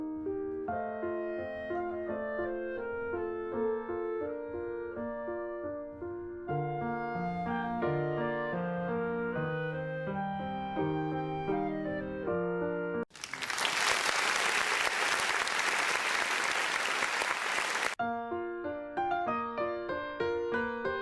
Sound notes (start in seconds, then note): 2.5 classic music; 13.1 applause